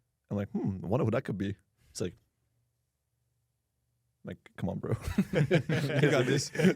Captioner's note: laughs